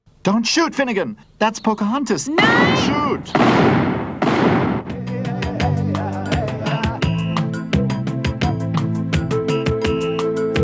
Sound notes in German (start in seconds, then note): 2.4 Schüsse